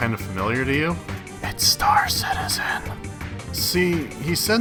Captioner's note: whispering